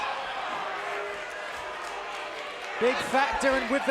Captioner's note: crowd boos